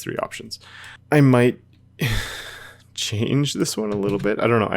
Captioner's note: sighs